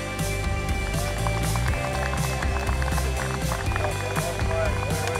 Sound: audience applause

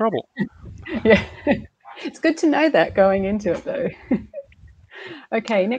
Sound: laughs

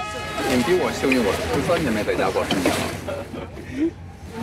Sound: speaking Chinese

